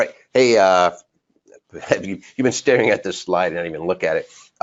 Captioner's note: laughs